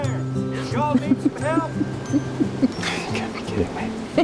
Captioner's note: drucinda giggling